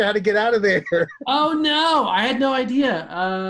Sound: laughing

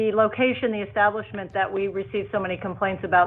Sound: ~audio distortion~

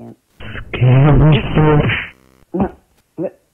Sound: smack!

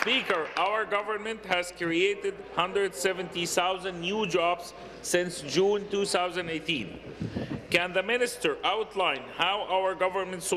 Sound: applause

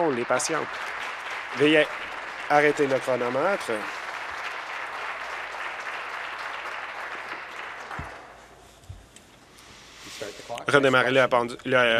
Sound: applause

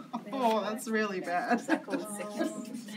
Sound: laughs

